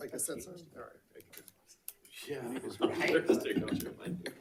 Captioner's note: people chattering